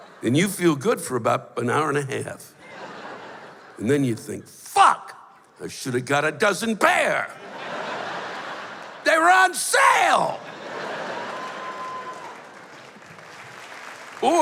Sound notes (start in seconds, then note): 7.3 laughter; 10.3 laughter; 12.7 applause